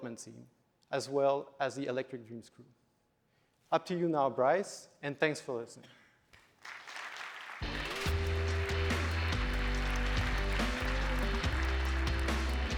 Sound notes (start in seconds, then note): 6.3 applause; 7.6 upbeat music